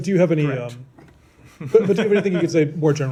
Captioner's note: laughter